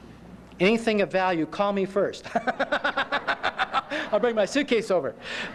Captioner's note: laughter